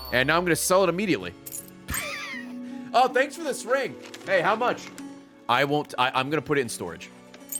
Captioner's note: laughs